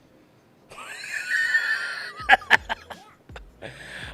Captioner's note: laughing